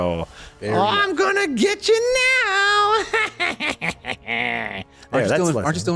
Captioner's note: Kelondra cackles again